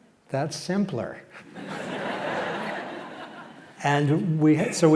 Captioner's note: laughter